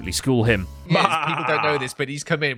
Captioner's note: like an evil laugh